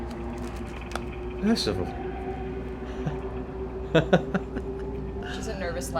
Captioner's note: laughs